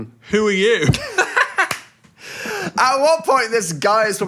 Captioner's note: both laugh